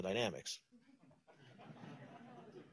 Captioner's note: laughter